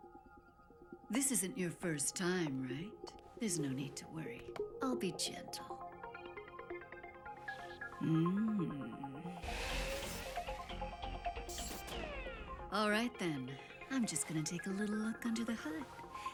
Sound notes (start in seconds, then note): 9.4 machine whirring; 9.5 pneumatic hissing